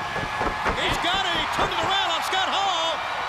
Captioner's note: crowd cheering